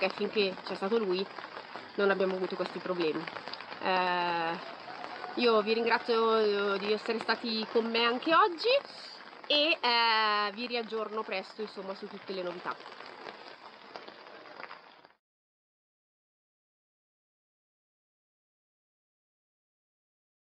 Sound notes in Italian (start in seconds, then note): 15.9 Applauso